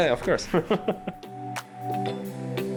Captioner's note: chuckling; mellow music